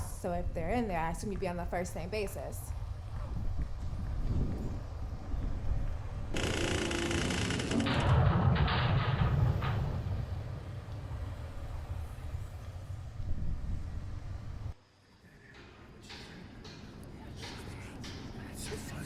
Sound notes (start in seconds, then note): 6.3 door creaks; 6.8 metal clanks